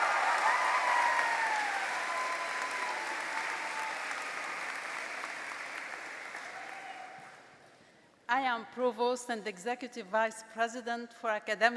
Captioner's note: applause